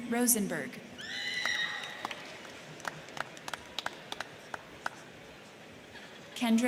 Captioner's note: crowd cheering; crowd clapping